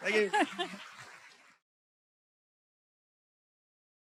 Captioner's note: applause